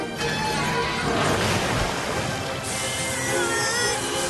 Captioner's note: whirl! splash!